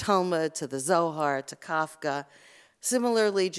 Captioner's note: Hebrew